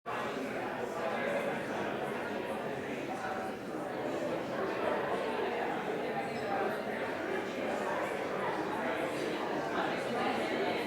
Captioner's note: background conversations